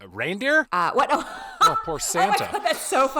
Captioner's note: laughing loudly